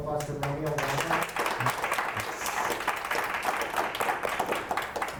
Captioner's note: audience applauds